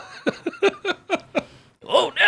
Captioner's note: laughing